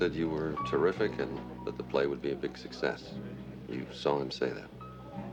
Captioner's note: chatter